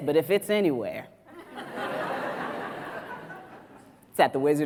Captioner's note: audience laughs